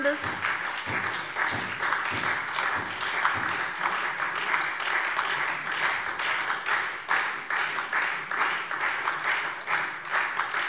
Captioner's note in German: Beifall SPD und Freie Demokraten